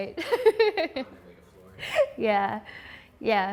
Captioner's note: voiceover